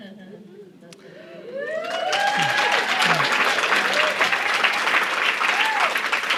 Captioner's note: audience cheering; audience applauding